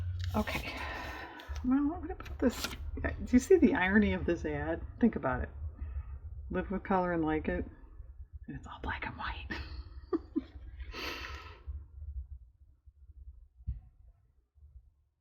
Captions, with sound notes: okay well i'm going to put this-- do you see the irony of this ad? think about it-- "live with color and like it" (whispers) and it's all black and white (laughs)